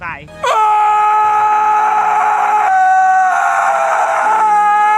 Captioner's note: John Krasinski screams